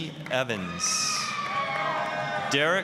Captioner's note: applause, cheering